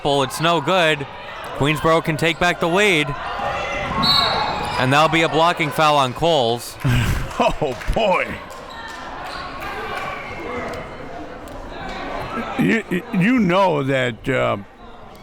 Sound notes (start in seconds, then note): 4.0 whistle blows; 6.8 laughs